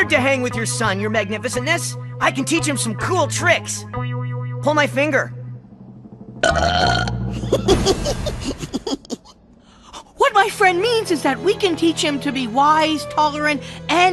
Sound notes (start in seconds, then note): 6.4 burp